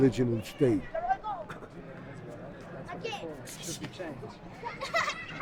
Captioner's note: voiceover